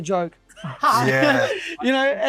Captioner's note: laughs